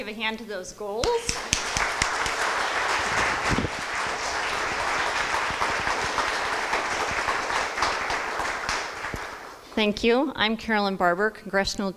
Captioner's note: crowd applause